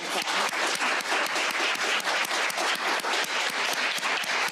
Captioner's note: crowd applauding